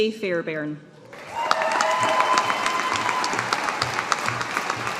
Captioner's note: audience applauding